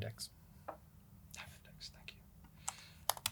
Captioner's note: whispering